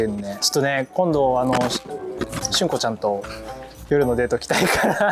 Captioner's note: haha; laughs